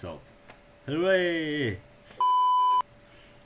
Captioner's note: beep